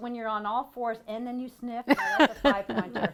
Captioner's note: laughing